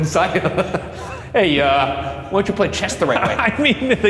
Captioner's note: laughs